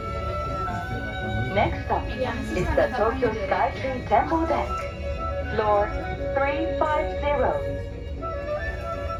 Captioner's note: elevator announcement